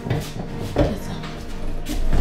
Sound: whispers

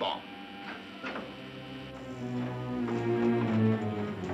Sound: door opens

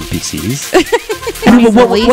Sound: laughs

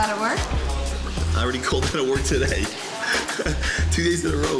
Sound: laughs

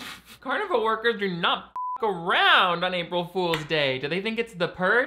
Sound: beep

